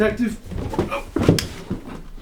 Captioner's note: falls